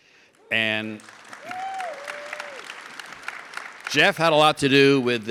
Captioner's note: audience cheers and claps